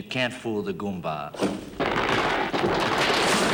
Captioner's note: cracking; thudding